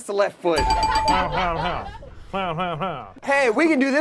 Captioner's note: buzzer ringing; laughs robotically